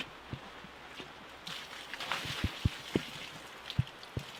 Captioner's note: water splooshing